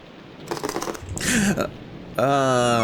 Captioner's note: gasp